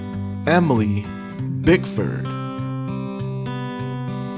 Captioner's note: none